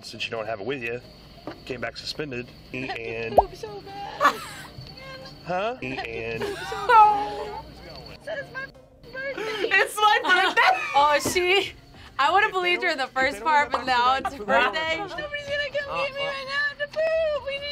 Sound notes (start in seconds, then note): 4.3 laughs; 6.7 laughs; 10.8 laughs